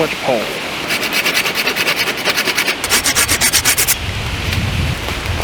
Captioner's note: sawing